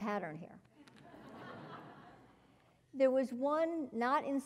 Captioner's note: laugh